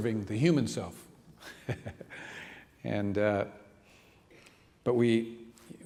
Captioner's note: laughing